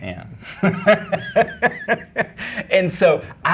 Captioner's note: laughing